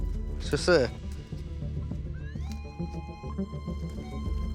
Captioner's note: beeping